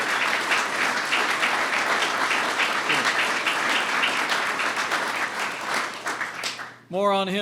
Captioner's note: applause